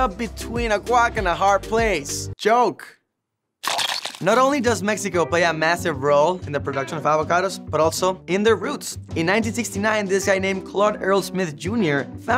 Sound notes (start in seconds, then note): 3.6 paint splats